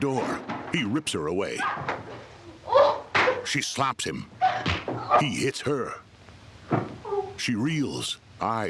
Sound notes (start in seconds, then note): 1.5 growling angrily; 3.1 loud slap; 4.7 smack